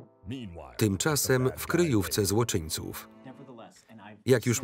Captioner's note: voiceover